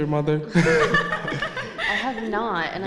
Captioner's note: laughter